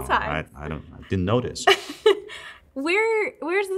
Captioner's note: laughs